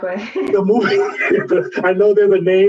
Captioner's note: laughs